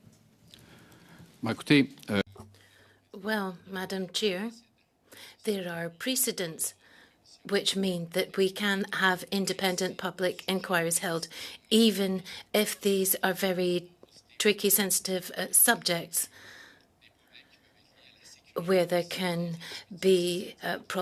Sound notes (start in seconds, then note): 5.9 speaking French